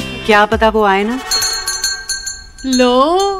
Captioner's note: Doorbell ringing